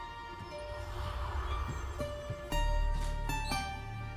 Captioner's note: ominous whispers